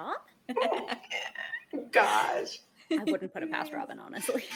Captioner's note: laughs